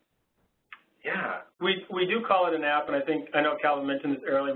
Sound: voiceover

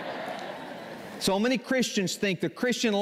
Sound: laughter

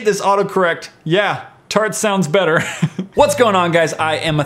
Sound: chuckles

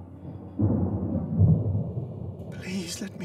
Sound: thunder rolling

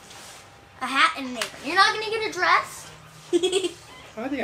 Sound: chuckles

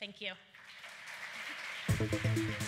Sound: applause

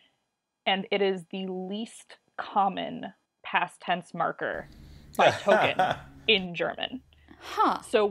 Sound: laughs

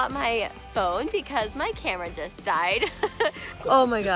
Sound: laughs

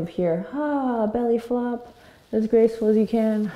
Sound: sighs

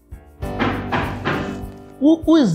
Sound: knock

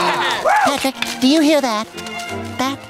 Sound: all cheering

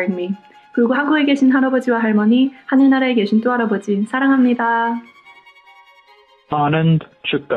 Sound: non-english speech

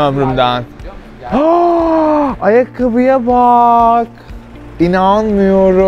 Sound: gasps

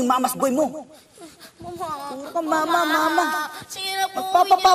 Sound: Michael cries

